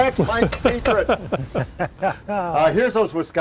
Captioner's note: laughing